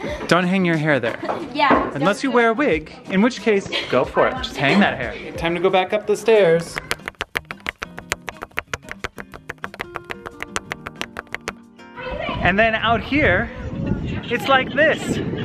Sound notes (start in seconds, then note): 6.8 clicking